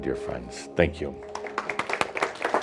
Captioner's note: audience applause